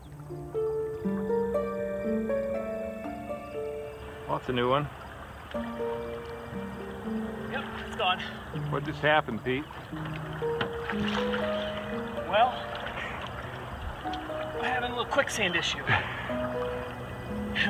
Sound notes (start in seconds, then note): 0.2 gentle music; 10.2 water splashing